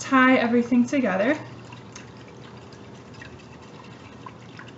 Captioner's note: stirring Sound